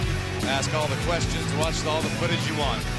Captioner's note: crowd cheering